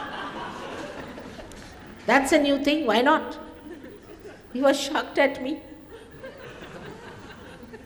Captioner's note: laughter